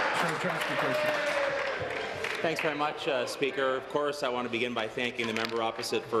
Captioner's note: applause